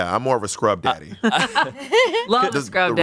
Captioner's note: everyone laughs